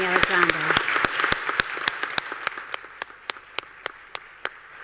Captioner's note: audience applause